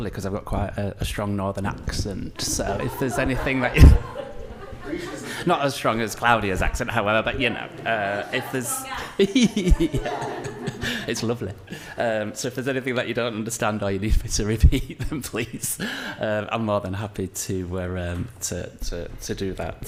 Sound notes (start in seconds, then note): 10.5 laughs